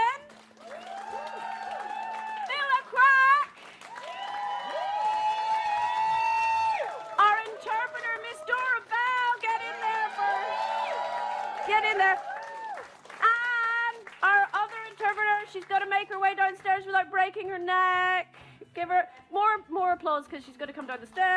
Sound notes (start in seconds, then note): 0.6 cheering